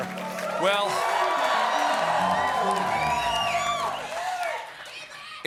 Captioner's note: applause